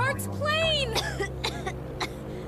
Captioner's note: coughs